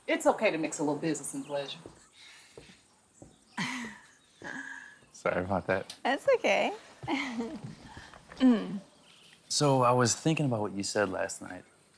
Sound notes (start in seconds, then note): 3.5 laughs